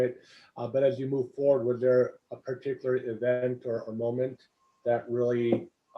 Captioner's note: laugh